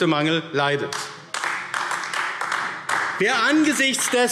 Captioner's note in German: Beifall AfD